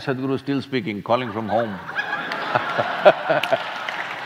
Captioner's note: laughter